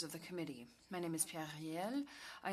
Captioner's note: speaking french